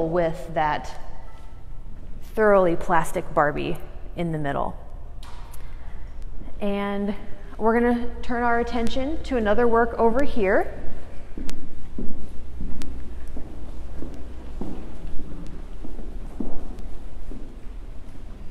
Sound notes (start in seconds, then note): 11.4 footsteps